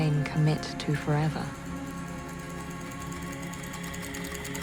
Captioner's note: typing continues